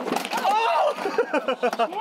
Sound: clattering; laughing

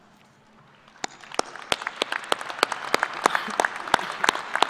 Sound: applause

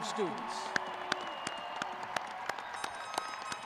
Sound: crowd cheering

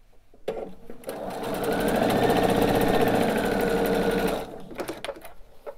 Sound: sewing machine whirring

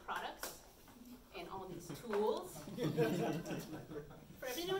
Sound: audience chuckles

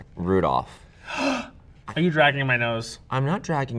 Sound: gasps

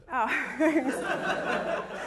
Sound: laughter

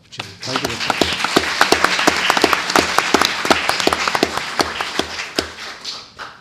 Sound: audience applauds

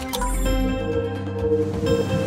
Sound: electronic humming

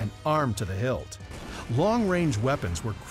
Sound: cannons booming

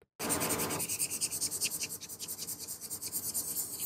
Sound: pen squeaking

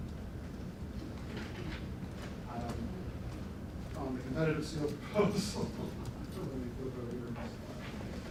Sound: laughs

